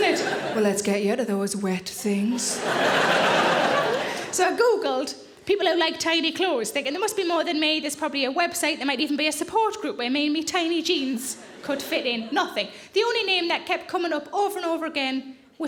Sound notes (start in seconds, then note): 2.4 audience laughing